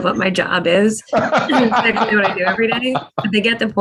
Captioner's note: laugh